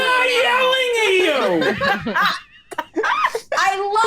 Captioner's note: laughing